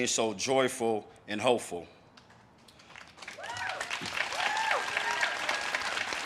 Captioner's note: audience cheers and claps